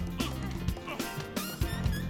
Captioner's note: grunting